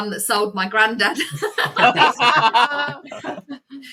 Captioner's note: laughter